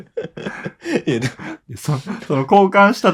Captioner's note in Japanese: 笑い